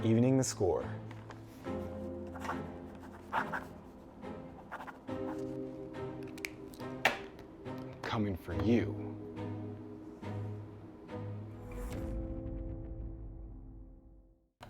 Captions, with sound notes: (pen scribbling) I'm coming for you. (gentle music)